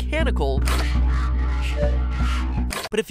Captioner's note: garbled mechanical audio